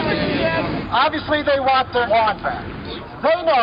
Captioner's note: voiceover